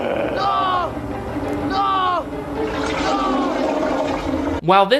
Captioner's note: screams